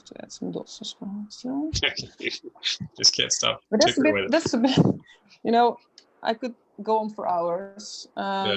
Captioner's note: laughs